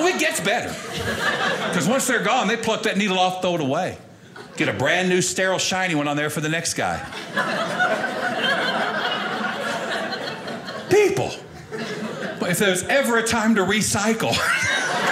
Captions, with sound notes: Oh, it gets better. 'Cause once they're gone they put that needle off, throw it away. Get a brand new sterile, shiny one on there for the next guy. (audience laughing) People, if there's ever a time to recycle...